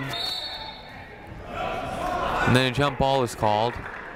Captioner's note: whistle blows